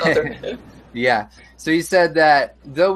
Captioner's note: laughs